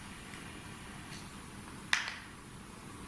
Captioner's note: none